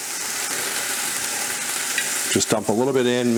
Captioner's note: pan hisses